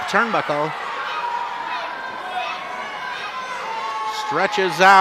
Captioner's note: audience yells